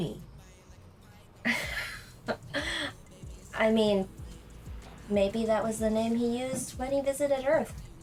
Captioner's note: laughs